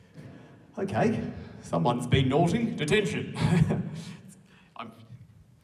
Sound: laughs

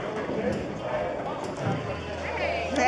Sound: crowd talking

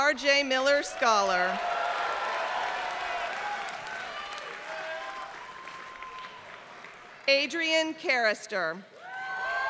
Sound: applause; applause

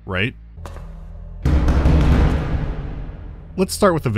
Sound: frantic pounding on metal

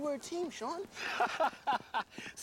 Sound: laughing

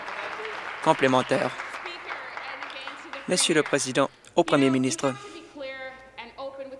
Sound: applause

